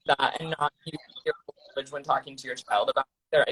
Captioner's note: distorting